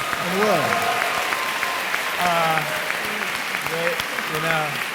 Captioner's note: audience applauding; laughs